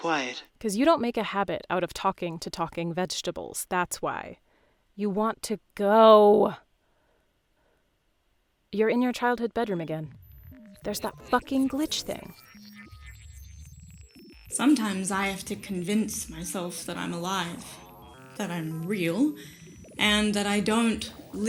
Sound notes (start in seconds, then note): 10.2 glitch noises; 12.2 glitch sounds